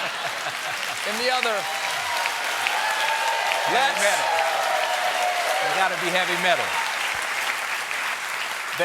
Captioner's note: applause